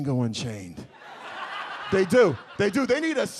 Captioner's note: audience laughs